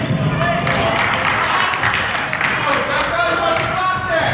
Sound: crowd claps

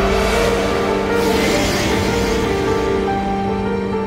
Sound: roar

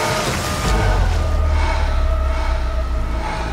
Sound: breathing heavily

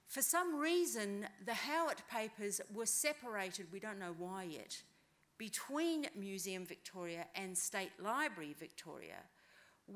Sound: none

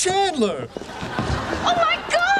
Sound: audience laughing

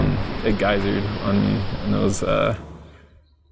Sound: liquid spraying

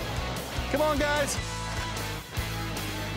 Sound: upbeat music; normal voice; upbeat music

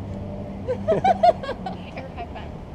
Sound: laughing

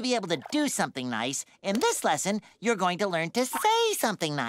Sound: none

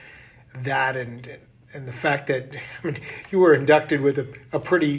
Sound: chuckles

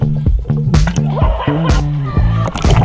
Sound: laughing; upbeat tempo playing

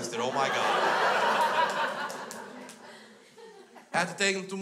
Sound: crowd laughs

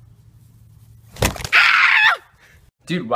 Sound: screams

